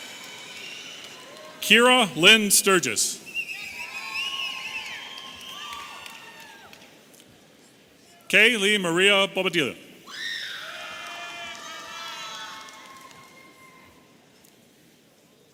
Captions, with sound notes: - Kira Lynn Sturgess. (audience cheering and whistling) Kay Lee Maria Bobadilla. (audience cheering)